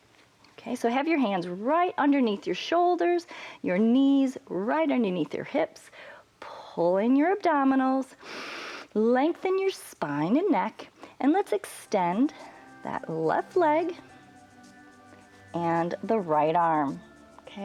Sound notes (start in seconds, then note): 8.2 inhales